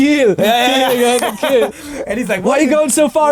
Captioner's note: laughing